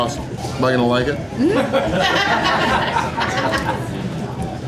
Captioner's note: crowd laughter